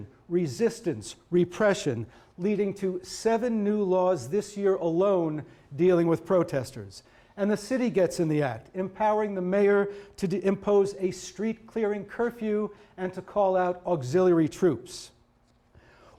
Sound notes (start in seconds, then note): none